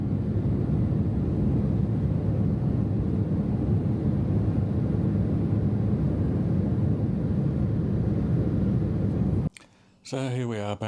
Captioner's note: aircraft sounds